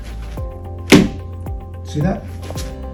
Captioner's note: shoes hitting floor